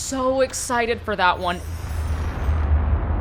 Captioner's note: magic chime; intense ambience